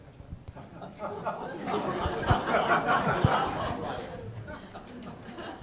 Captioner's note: laughter